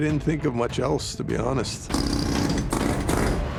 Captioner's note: jackhammer whirring